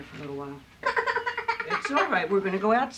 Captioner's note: baby crying